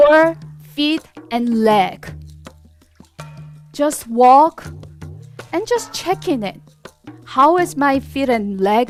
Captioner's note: laughs